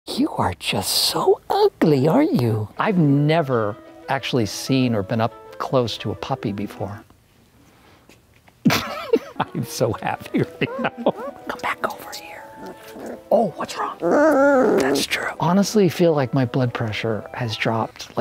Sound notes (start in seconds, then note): 8.6 laughs; 14.1 puppy growls